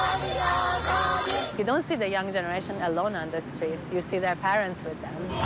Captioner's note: crowd chanting